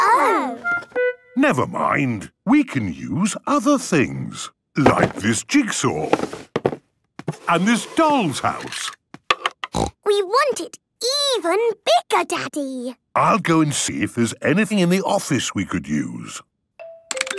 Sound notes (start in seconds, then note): 9.7 snorting